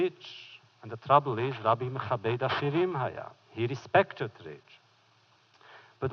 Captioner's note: foreign language